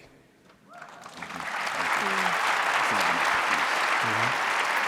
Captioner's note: audience applauding